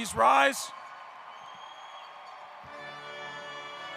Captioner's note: applause; recessional music